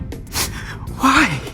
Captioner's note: sniffles